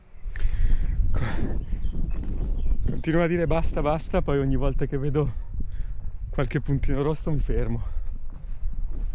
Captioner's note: sighs